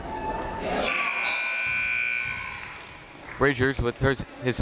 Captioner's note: buzzer